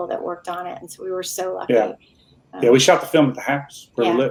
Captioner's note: murmuring